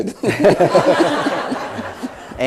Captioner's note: laughter